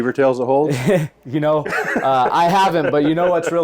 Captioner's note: laughs